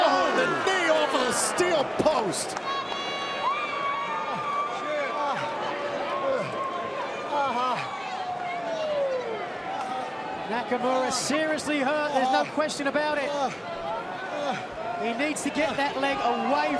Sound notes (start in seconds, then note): 3.7 crowd chatter